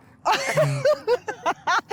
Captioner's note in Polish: śmiech